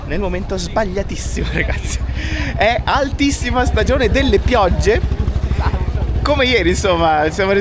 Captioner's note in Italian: risate